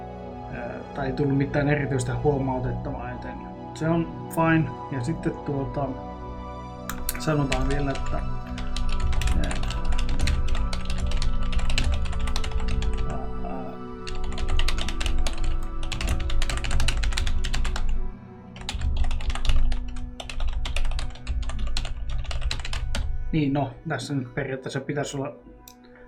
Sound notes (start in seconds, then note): 8.4 crazy typing and muttering